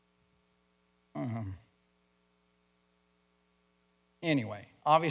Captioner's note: moaning